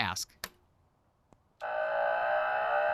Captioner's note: electric humming